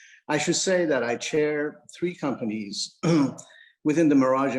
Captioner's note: clears throat